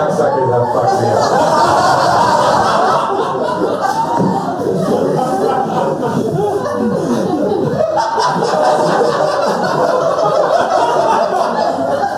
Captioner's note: laughter